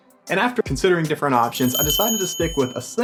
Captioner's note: bell chimes